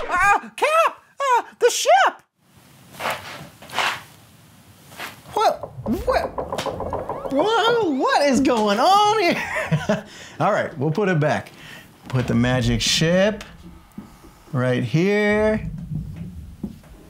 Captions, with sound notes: uh, Cap uh, the ship! wh wh [banging] what is going on here? heh heh all right we'll put it back put the Magic Ship right here